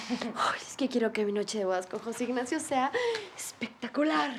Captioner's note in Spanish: Risas